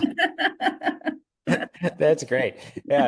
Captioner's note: laugh